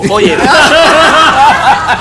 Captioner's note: laughs